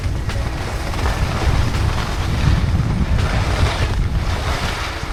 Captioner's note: skis scrape